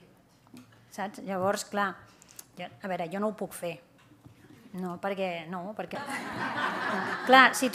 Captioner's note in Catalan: riures